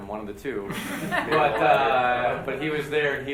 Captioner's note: group laughs